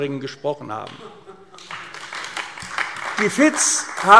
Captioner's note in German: Beifall AfD